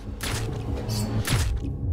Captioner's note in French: coups de feu ÉtouffÉs